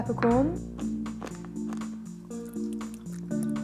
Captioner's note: peppercorns crunch; mellow music